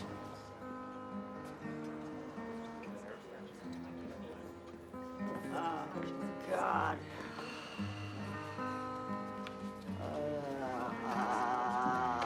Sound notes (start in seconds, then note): 2.4 guitar strumming; 6.5 sighs